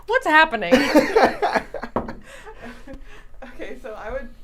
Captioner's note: laughs